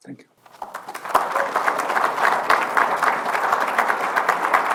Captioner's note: applause